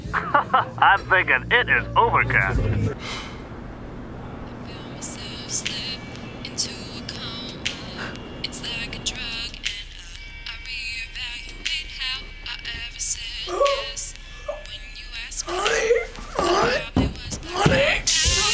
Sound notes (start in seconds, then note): 0.0 laughs; 0.2 voiceover; 3.0 Paul sighs